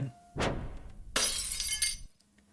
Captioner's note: woosh; glass breaking